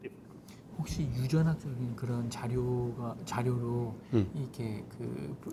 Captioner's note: speaking in Korean